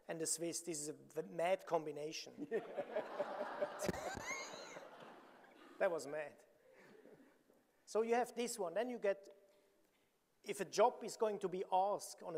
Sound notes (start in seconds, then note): 2.5 audience laughing; 3.6 chuckles